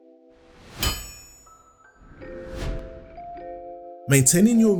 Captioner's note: metal clanging